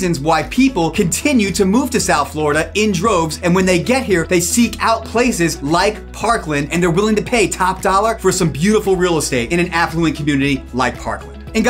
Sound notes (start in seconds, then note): none